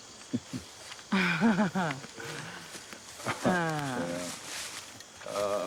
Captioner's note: laughing